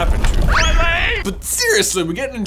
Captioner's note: cartoon slip noise